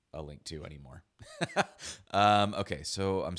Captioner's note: laughs